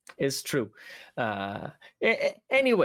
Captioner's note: none